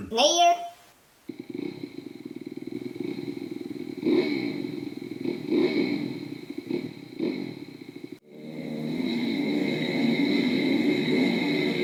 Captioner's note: dirt bike engines